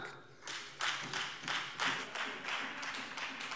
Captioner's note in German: Beifall Freie Demokraten